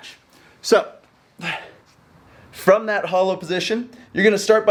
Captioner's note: exhales sharply